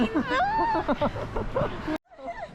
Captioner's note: laughing